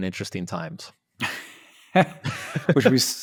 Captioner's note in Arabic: يضحكون